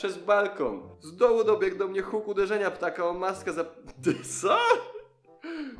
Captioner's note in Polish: śmieje się